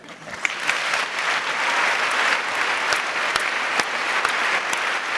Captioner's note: adience applauding